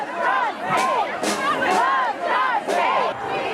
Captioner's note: unison chant